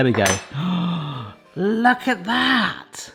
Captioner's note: knife clangs; gasps